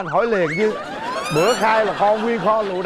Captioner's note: laughing